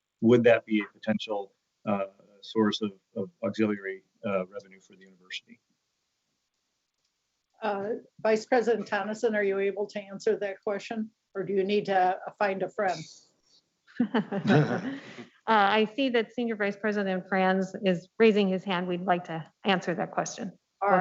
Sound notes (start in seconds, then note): 14.0 laughing